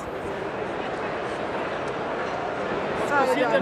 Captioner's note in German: Lautes Stimmengewirr